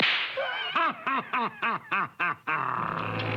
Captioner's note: laughing